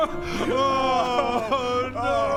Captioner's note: wails